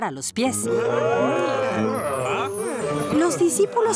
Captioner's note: surprised sounds